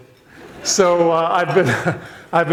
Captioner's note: audience laughs; laughs